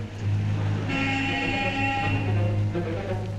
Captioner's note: car horn honks